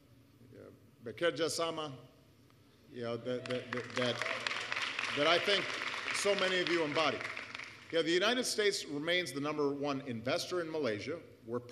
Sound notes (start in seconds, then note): 3.4 applause